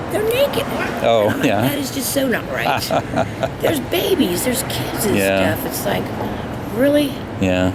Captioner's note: interviewer laughing